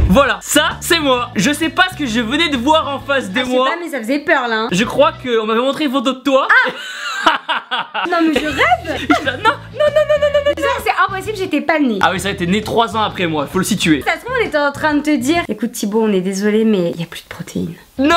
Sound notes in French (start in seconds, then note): 6.5 Rires